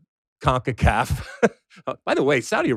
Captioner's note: laughs